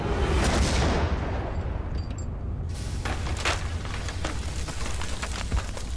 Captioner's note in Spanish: Estruendo